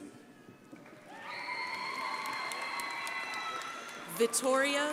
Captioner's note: crowd applauding